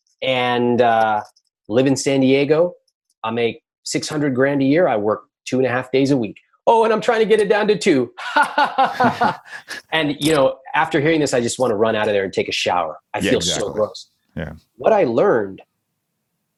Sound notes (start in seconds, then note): 8.4 laughing